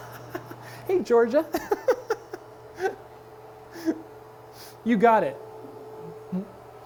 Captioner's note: laughs